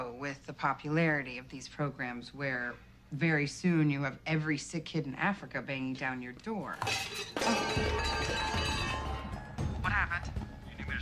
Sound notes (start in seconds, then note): 6.8 container clatters